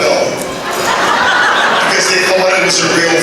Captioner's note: laughter